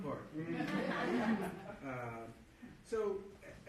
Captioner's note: audience laughing